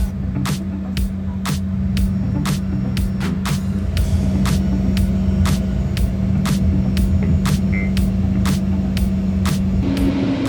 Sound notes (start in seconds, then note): 3.5 propellers whirring; 7.2 lively upbeat music